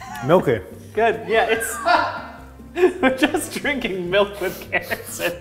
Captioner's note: laughs offscreen